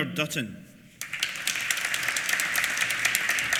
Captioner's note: applause